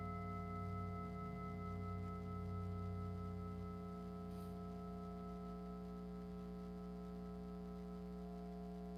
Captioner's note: singing bowl